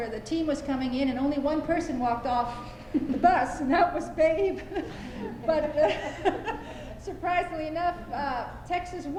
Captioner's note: laughter